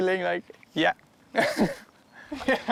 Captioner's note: laughs